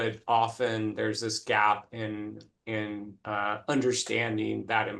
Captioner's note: none